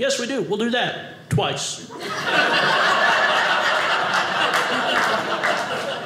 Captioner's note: audience laughing